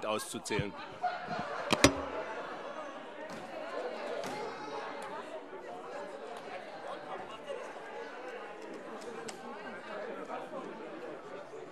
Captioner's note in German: Lachen und anhaltende Unruhe